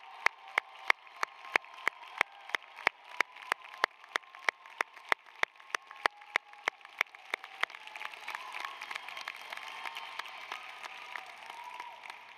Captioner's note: applause